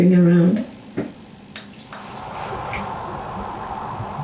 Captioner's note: replay of footsteps / running